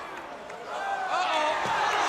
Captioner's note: crowd cheering